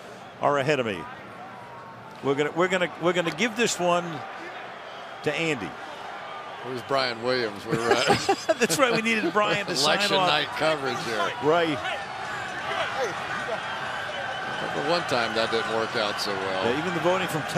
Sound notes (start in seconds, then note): 7.6 laughter